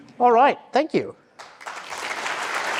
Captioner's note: audience applause